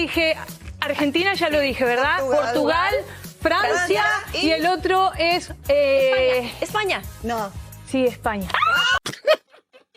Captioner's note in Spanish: risas